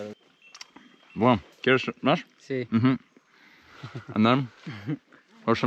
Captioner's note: speaking in foreign language